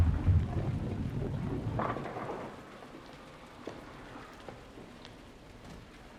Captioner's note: bowling pins clattering